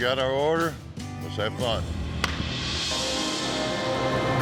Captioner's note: claps; suspense music